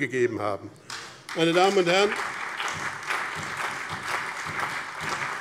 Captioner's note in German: Beifall BÜNDNIS 90/DIE GRÜNEN, CDU, SPD und Freie Demokraten